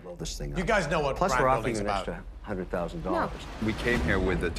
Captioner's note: group chattering